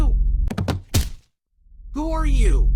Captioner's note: Lance falling